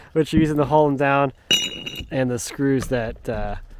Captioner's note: washer clinking